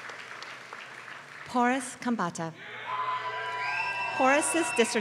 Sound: applause

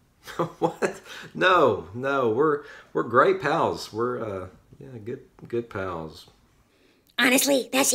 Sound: laughs

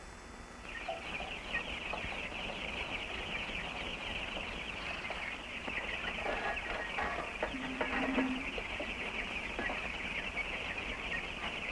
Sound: chicks chirping

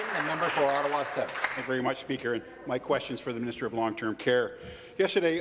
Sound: some Applause

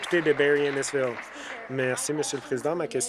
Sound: applause

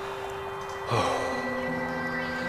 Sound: sighs

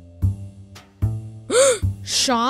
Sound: gasp

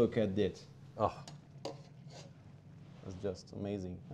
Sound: Ming gasps

